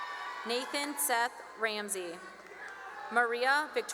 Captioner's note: cheering; cheering and applause